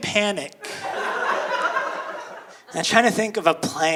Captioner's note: audience laughing